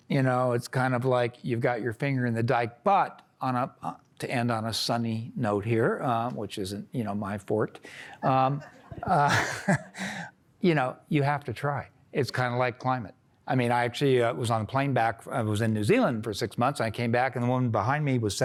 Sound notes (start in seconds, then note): 8.3 laughter